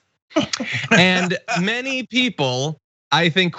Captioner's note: laugh